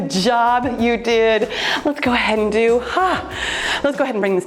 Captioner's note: sighs